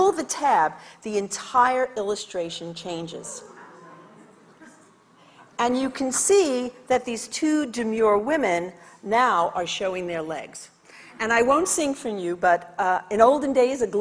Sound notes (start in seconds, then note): 3.4 audience chatters